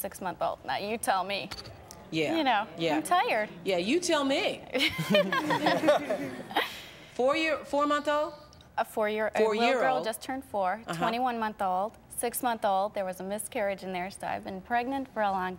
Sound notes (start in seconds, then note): 4.7 laughter